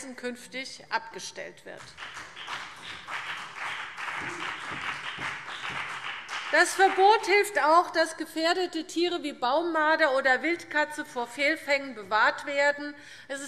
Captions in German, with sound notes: künftig abgestellt wird. [Beifall BÜNDNIS 90/DIE GRÜNEN] Das Verbot hilft auch, dass gefährdete Tiere wie Baummarder oder Wildkatzen vor Fehlfängen bewahrt werden.